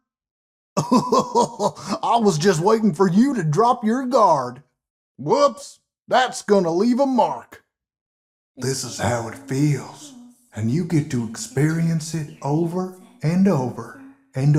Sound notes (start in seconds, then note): 0.8 laughs; 8.6 child's Voice in the Background repeating